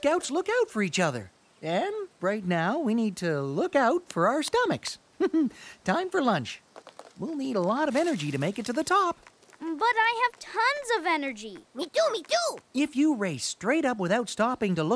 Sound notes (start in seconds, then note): 9.1 rushed eating